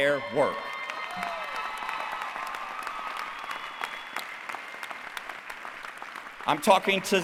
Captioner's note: applause